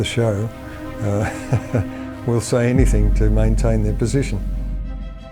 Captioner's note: chuckles